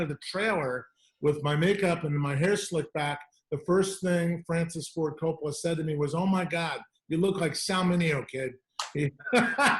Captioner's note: laughter